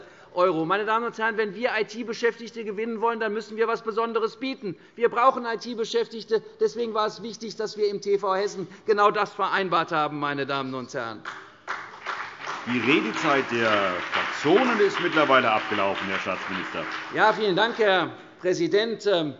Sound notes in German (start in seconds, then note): 11.3 Beifall CDU und BÜNDNIS 90/DIE GRÜNEN